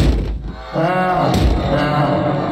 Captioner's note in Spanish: Risas raras